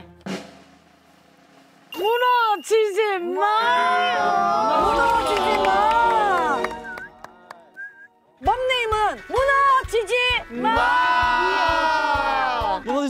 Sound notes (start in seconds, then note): 0.1 drum roll; 6.4 whistling in celebration